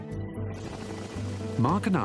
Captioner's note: helicopter whirring